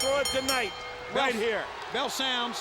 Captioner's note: bell dinging